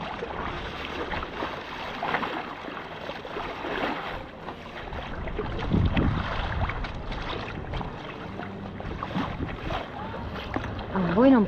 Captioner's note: sound of the waves